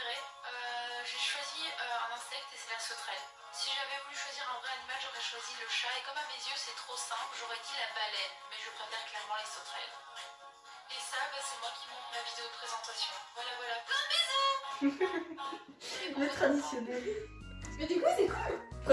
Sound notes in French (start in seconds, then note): 14.6 Rire silencieux; 14.8 Petit rire